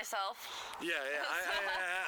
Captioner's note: laughter